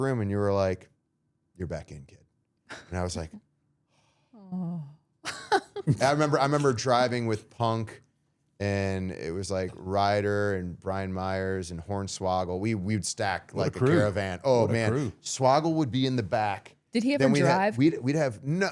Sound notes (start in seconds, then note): 4.3 sighing; 5.2 laughs